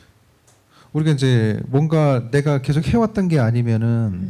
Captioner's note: speaking korean